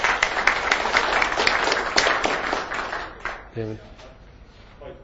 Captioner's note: audience clapping